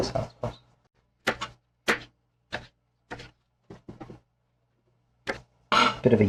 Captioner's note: knife cutting